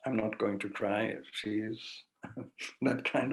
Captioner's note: chuckles